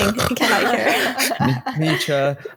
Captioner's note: loud snoring sounds; laughter; snores